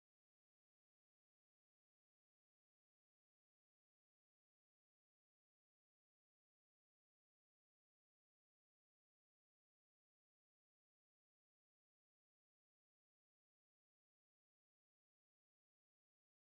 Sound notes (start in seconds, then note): none